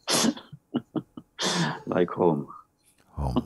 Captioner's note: γέλια